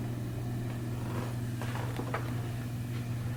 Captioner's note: floor creaking